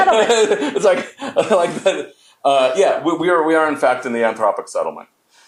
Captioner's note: laughs